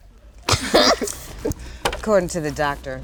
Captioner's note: group laughs